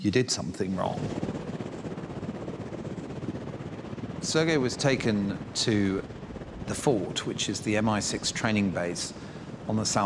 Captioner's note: blades whirring